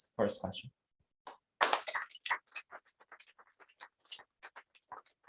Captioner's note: applause